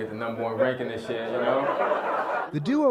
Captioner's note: laughter